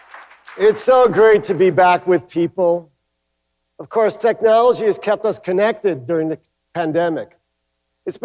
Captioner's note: cheers and applause